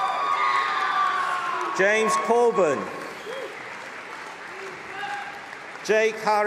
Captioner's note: screaming